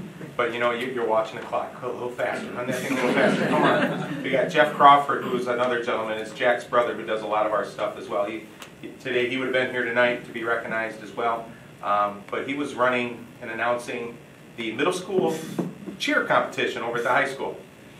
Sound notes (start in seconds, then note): 2.4 audience laughing